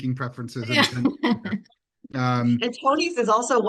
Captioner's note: laughing